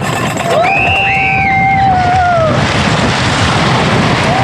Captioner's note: screaming